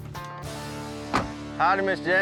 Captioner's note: door closes